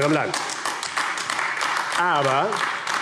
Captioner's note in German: Beifall AfD